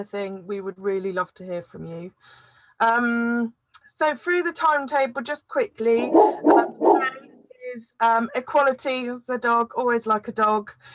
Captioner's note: dog barks